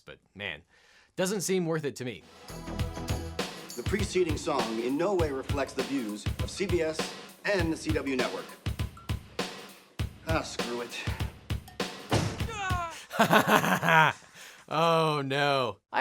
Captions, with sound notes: but man, doesn't seem worth it to me. (upbeat music) - The preceding song in now way reflects the views of CBS and the CW network. Ah screw it. (yells) - (laughing) Oh no.